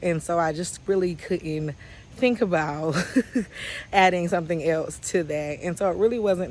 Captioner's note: chuckles